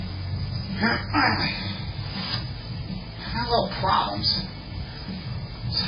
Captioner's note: grunting